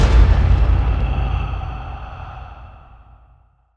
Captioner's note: thunder crashes; ghostly breath